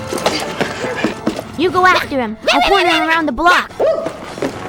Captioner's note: A dog yapping